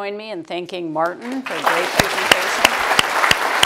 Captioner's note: applause